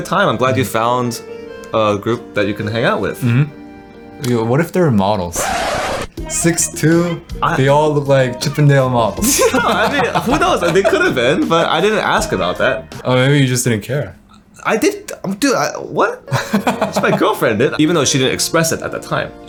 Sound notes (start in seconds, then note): 15.0 stutters; 16.3 laughs